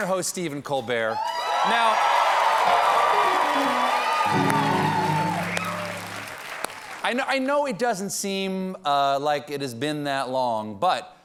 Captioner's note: cheers and applause